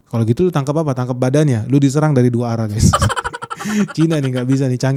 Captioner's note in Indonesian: tertawa